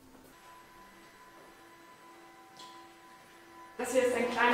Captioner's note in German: kleine Beschleunigergeräusche